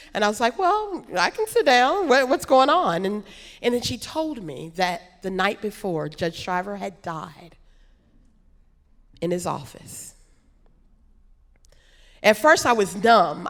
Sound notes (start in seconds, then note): none